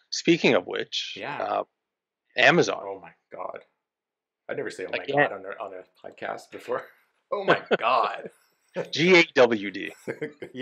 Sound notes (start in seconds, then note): 7.4 both laugh; 8.8 laughs